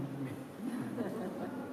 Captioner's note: laughter